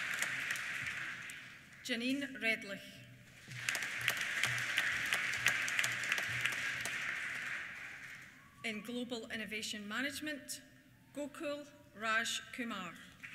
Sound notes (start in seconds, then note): 3.3 applause